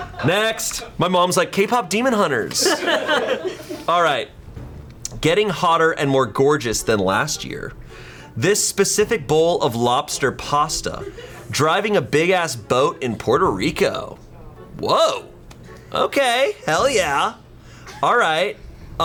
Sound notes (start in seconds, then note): 0.0 colleagues laughing; 2.5 colleagues laughing